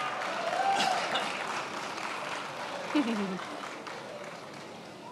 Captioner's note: attendees applauding